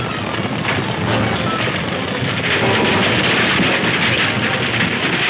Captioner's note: wagon crashing; suspenseful orchestral music